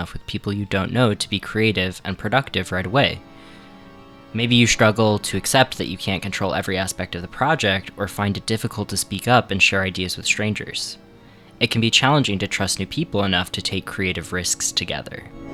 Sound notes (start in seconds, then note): none